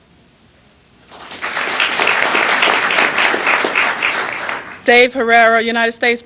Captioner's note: applause